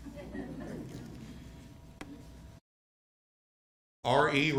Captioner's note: attendees giggling